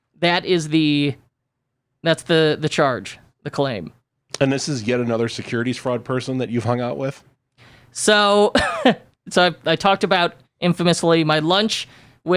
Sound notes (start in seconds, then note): 8.5 laughs